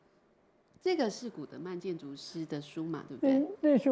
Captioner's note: Mandarin